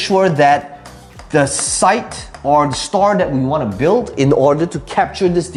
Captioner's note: tapping marker